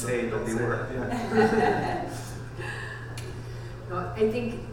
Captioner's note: laughter